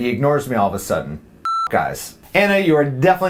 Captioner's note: beep